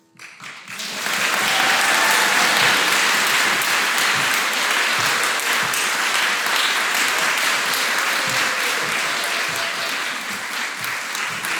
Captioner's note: applause